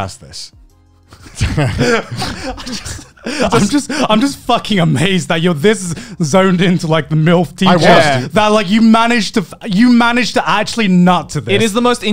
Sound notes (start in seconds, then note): 1.1 laughs; 7.6 murmurs